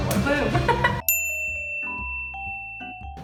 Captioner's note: bell dings